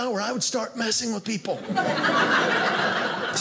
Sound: audience laughing

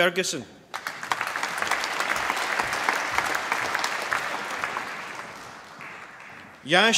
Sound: applause

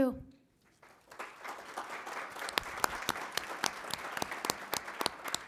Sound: applause

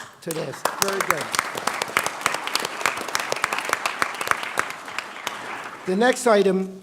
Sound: applause

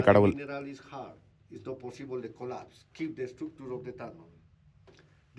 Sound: speaking their language

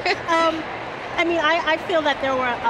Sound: laughing

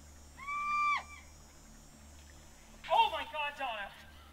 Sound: screaming

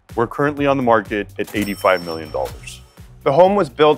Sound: cash register rings

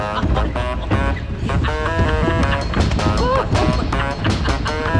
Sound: laughing

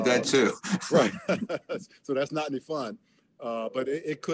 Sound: laughs

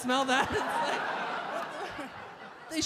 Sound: audience laugh

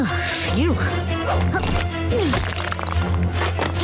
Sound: grunting

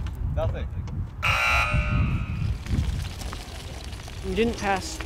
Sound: buzz

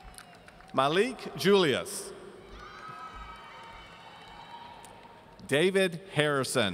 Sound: audience cheering

